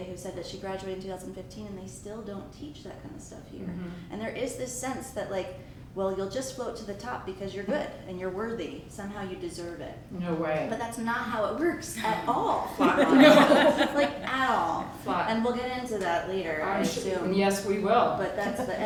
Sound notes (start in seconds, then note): 12.7 audience laughs